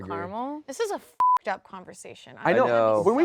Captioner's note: beep